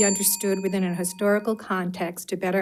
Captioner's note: bell dings